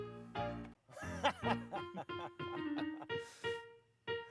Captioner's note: laughing; pirate music